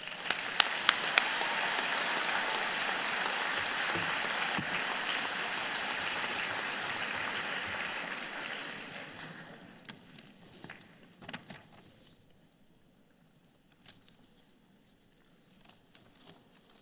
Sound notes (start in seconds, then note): 6.1 applause